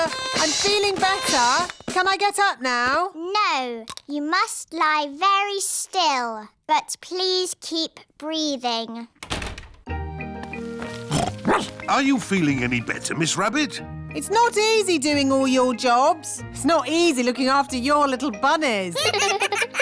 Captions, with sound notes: Uh, I'm feeling better. Can I get up now? No. You must lie very still. But please keep breathing. (DOOR SHUTS) -(SNORTS) -(BARKS) Are you feeling better, Miss Rabbit? It's not easy doing all your jobs. It's not easy looking after your little bunnies.